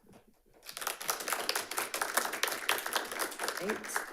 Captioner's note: audience applauding